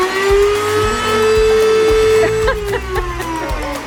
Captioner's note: saw noise